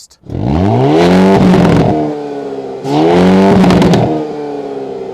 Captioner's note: engine roaring loudly